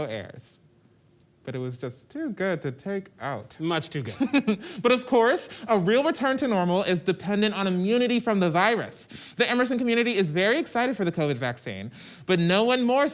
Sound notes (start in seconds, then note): 4.1 laughs